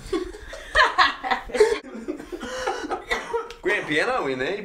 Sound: Caslaughing

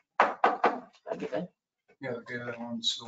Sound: door knocking

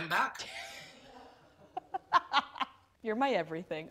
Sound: laughter

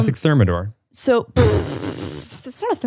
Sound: laughs

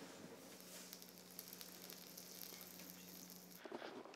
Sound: sizzling

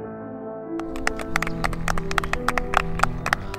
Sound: applause

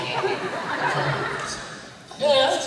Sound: laughter

